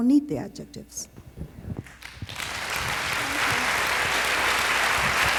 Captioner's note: applause